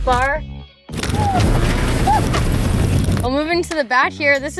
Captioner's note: cheers